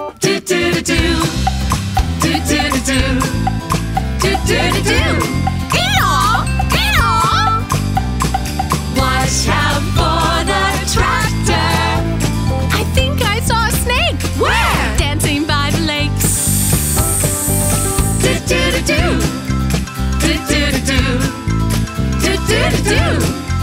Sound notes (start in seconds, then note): 16.2 ssssss